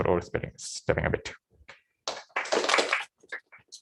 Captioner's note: applause